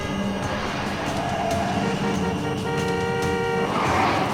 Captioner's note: tires screeching & horns honking